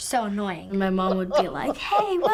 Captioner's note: laughs